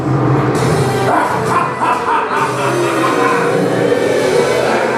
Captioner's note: evil laughter; boos